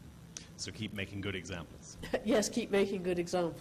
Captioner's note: voiceover